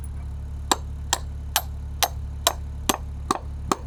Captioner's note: hammer banging